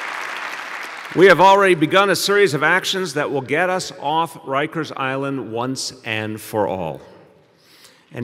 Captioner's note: applause